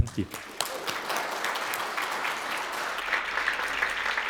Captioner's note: audience applauding